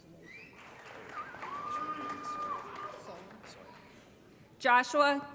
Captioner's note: applause & Cheering